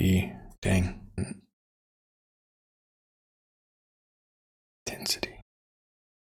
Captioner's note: silence